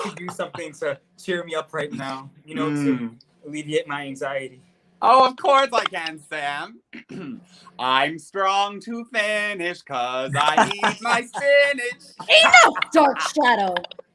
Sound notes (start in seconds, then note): 10.2 Sam laughs